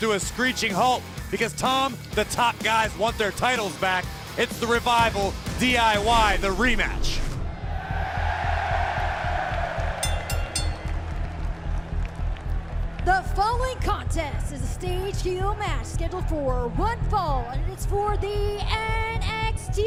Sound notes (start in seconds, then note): 9.3 cheers and applause; 10.0 bell ringing